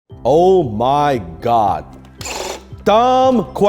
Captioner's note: machine whirs